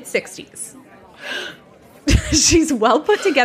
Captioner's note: gasps